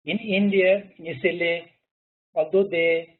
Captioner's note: murmurs